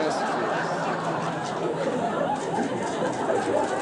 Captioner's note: crowd laughs